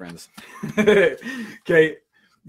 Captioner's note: laughs